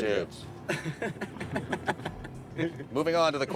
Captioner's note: laughing